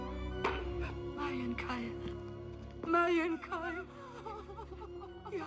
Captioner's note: weeping